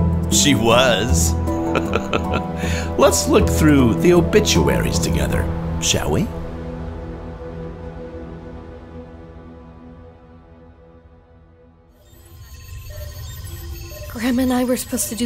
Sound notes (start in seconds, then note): 1.6 laughs; 6.4 monitors beeping